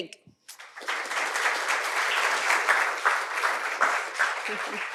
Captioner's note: applause